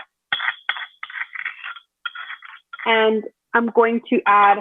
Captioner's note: metal scrapping